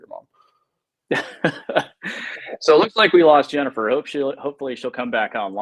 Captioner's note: laughs